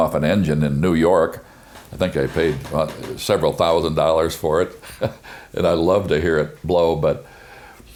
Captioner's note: chuckles